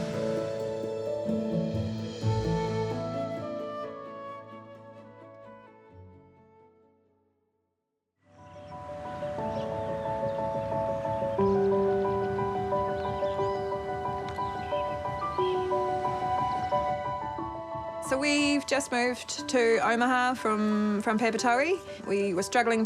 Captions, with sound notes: * (BRIGHT PIANO MUSIC) (BIRDS CHIRP) So, we've just moved to Omaha from Papatoe.